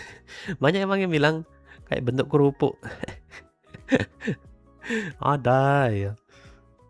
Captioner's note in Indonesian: tertawa